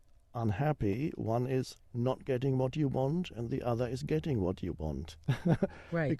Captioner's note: chuckles